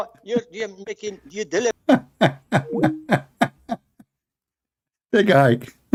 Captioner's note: Ketawa